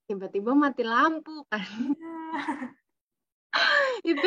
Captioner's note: laughter